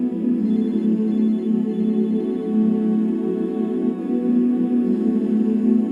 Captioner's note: humming